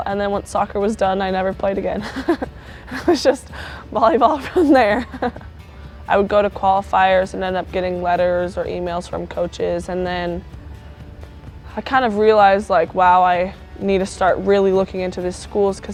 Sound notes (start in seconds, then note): 2.0 chuckles; 2.0 chuckling; 5.7 laughs